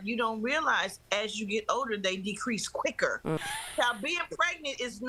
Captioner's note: laughter